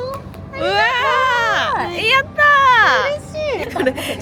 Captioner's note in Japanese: 叫び声